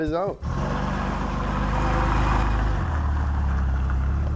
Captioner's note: engine running